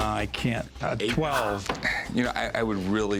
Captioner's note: sighs